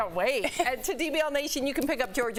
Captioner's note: laughter